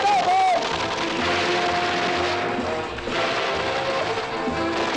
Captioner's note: non-english speech; rapid gunfire